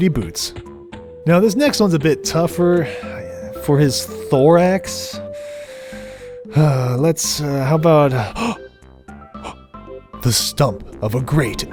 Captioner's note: gasp